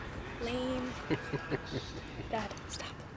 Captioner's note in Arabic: ضحكة مكتومة